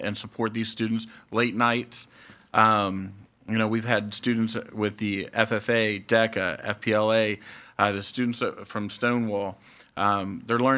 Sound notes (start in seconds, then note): none